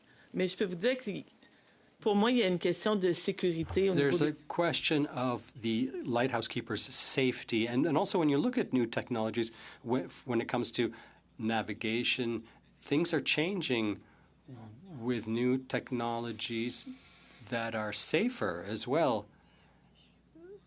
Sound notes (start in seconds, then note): 3.7 speaking French